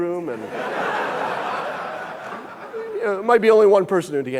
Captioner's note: audience laughing